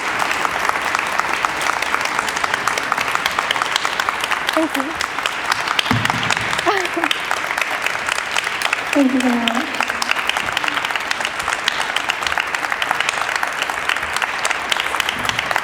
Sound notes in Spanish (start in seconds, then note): 0.0 Aplausos del público; 7.2 Risas; 9.7 Aplausos continúa